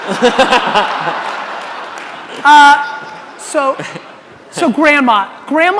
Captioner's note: audience laughing